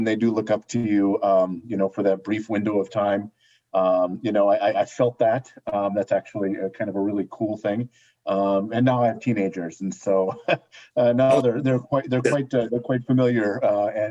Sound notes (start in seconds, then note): 10.2 laughter